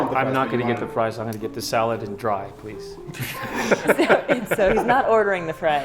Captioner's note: everyone laughs